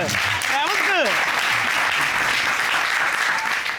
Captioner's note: applause